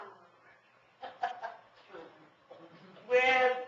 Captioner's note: audience member chuckles